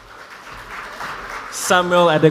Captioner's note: audience applauds